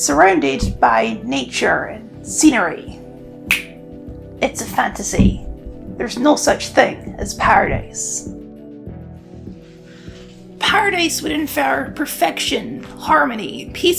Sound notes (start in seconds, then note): 3.4 snaps fingers